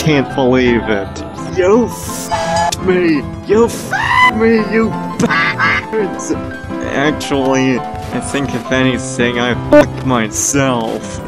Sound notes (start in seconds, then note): 2.2 train whistle; 5.2 quack quack